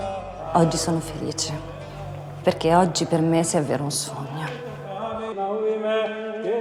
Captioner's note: speaks in foreign language